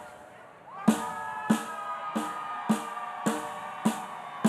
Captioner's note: audience cheering